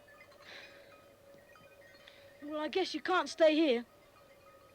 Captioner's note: sighing